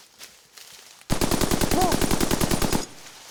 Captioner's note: gunfire